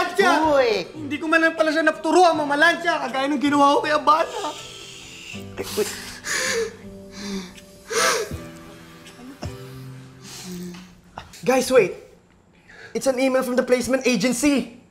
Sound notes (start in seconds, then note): 5.6 cries